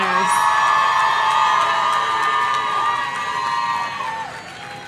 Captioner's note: audience cheering